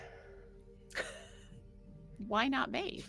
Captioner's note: person laughing